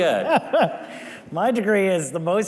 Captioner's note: laughs